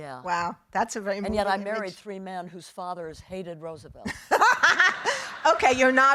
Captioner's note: laughing; audience laughing